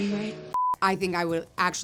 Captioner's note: screen beeps